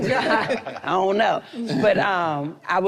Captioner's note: group laughs